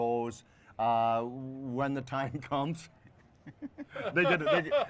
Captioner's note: laugh